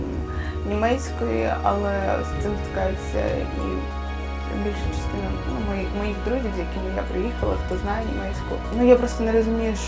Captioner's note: Ukrainian